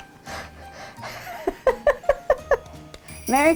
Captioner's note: laughing